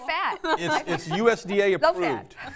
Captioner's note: laugh